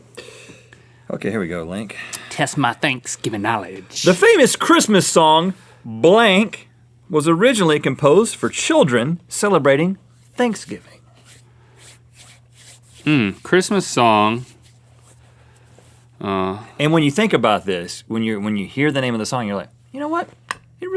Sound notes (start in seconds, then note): none